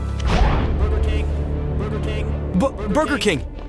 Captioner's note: distant Burger King chants